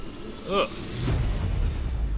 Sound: ugh

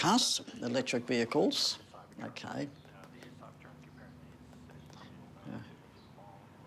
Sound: podcast plays over headphones

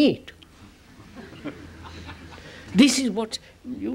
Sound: laughter

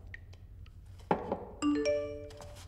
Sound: SMS signal

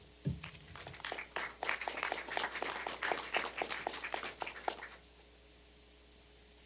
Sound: applause

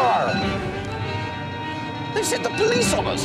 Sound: police bell

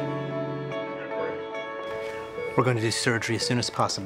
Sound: monitor beeping

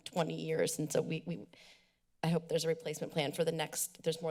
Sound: deep breath

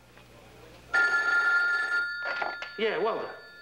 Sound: phone rings

